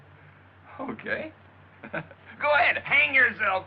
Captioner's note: chuckles